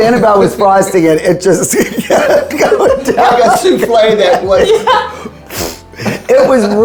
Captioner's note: group laughing